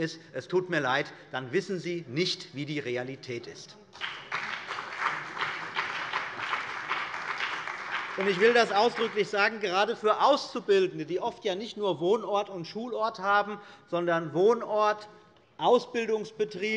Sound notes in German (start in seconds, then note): 3.9 Beifall bei der CDU und dem BÜNDNIS 90/DIE GRÜNEN